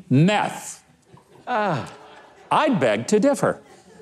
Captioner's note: audience laughs